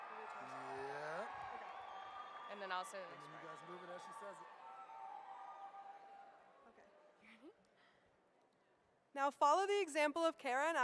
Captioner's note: applause